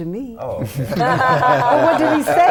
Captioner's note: laughter